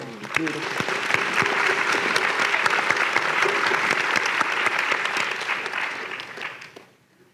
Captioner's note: applause